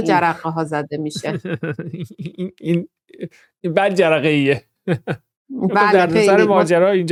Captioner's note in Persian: خنده